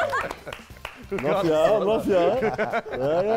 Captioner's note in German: Lachen